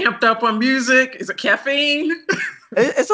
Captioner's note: laughs